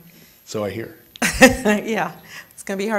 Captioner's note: laughing